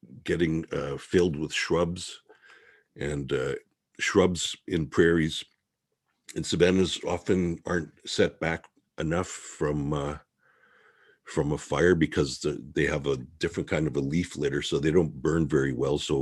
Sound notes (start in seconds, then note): none